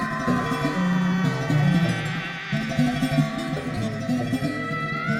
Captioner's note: screechy tones